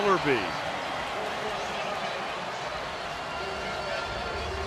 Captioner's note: cheering